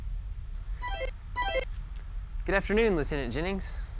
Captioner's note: electronic sounds